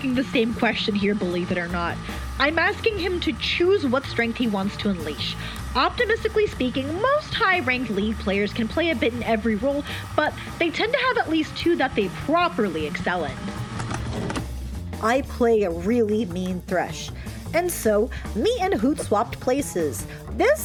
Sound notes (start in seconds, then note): 13.4 sfx: VHS tape eject; 15.0 In Hoot's voice